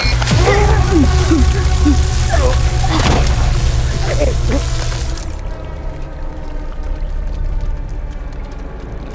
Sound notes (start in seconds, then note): 0.0 electrical zapping; 0.2 both groaning; 3.0 guttural groan; 5.7 water trickling; 5.7 zapping stops